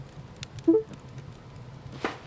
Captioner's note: computer chimes